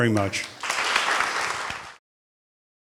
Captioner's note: applause